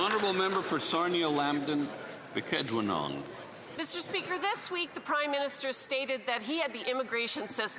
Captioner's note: applause